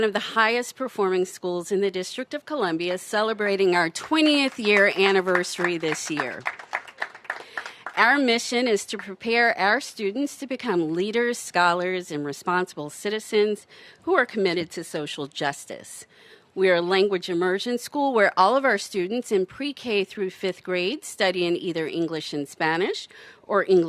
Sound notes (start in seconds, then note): 7.0 applause